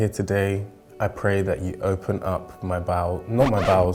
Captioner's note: record scratch